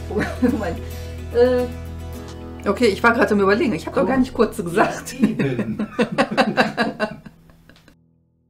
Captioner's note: laugh